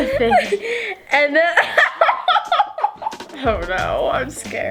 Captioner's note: laughs; laughs